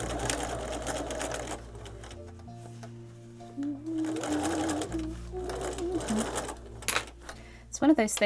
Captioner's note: sewing machine whirrs and hums tunelessly